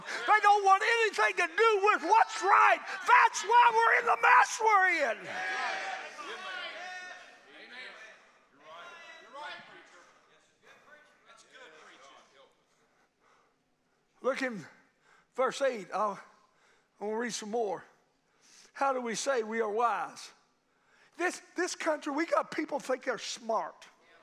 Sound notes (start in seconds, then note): 5.5 congregation cheers